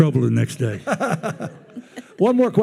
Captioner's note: attendees laughing